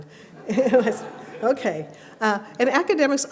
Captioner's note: laughs